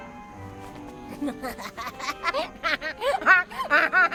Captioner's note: laughing